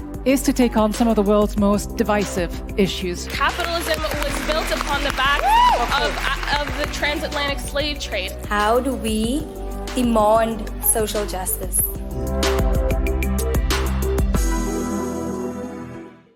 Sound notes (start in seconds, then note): 4.4 cheering; 12.0 gentle music